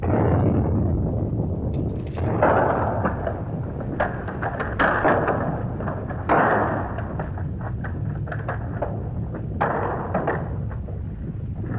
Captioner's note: explosion; rumbling sound & rock clattering